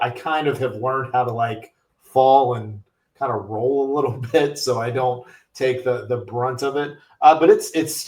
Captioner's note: chuckles